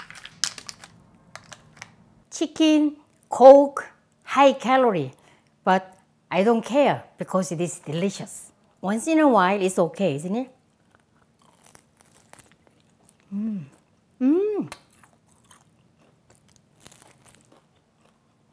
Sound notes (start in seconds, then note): 10.8 crunching noise; 14.7 chewing noise